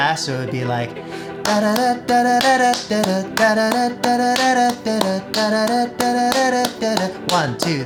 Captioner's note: clapping and vocalizing the beat